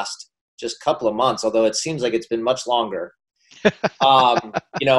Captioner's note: laughing